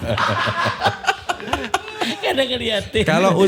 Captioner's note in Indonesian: tertawa